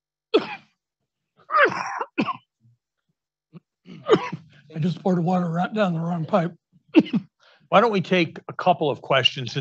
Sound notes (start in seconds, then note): 0.6 coughing